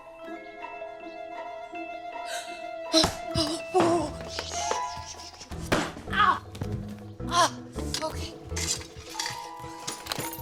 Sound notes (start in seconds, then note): 2.3 gasps